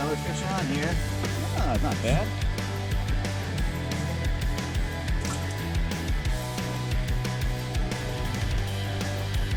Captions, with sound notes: - There's another fish on here. Ah, not bad. (water splashes)